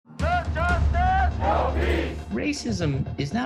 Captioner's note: crowd shouting